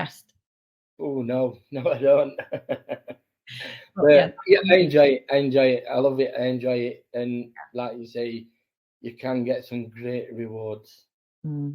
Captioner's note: laughing